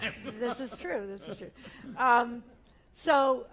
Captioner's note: laugh